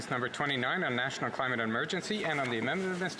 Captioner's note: speaking French